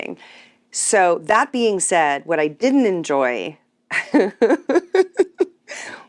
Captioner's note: laughs